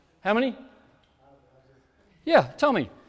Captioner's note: speaks off microphone